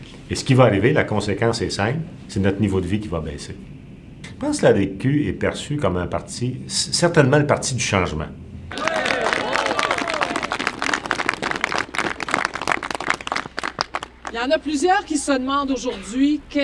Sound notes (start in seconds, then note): 8.7 applauses